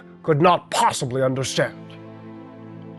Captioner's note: none